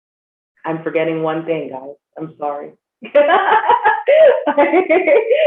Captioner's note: laughing